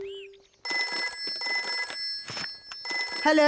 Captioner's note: phone ringing